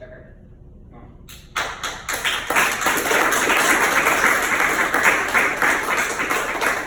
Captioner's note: audience applauds